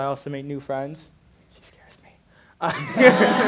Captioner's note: whispered; laughter and chatter